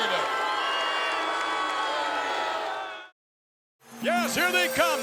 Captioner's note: applause